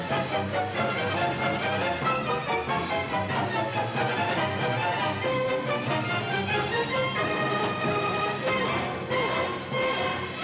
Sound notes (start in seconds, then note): none